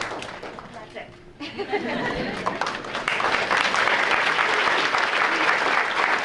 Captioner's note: audience applauding; audience laughs and claps; laughs